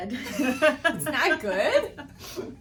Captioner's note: both laughing